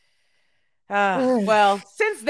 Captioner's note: sighs